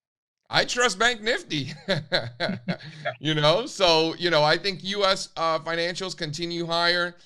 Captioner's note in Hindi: हँसी